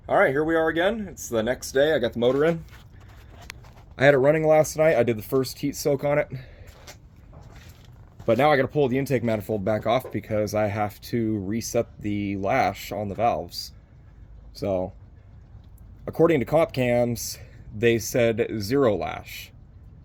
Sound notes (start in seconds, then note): none